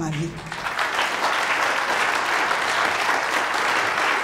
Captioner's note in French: applaudissements